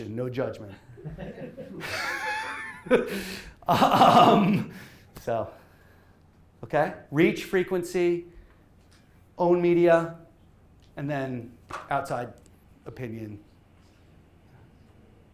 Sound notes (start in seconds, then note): 0.9 laughter